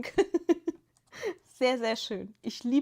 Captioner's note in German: gelächter